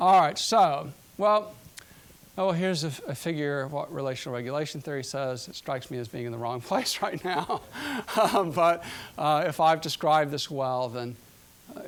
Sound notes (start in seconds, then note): 7.1 laughing